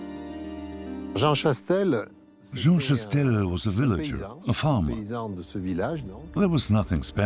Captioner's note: French dubbed into English